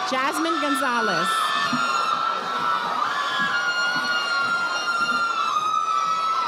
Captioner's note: audience applauding